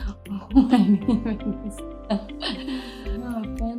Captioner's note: laughter